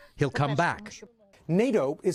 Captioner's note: speaking in a global language